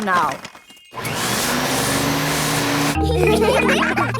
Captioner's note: whirring; all laughing